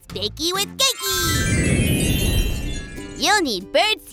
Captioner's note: transition tones